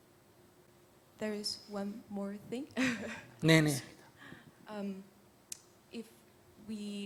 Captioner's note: questioner Laughter